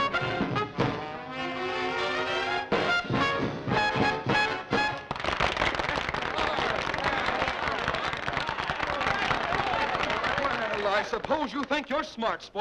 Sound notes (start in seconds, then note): 4.7 applauding